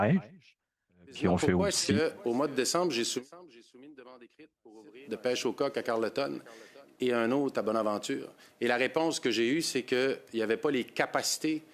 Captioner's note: speaking French